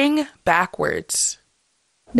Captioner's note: soundbite of archived recording